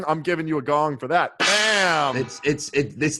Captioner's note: gong clangs